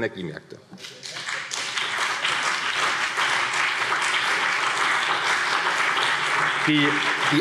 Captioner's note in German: Beifall CDU und BÜNDNIS 90/DIE GRÜNEN